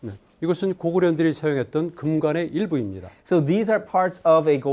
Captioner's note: speaking in Korean